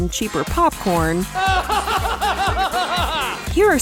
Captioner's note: laughs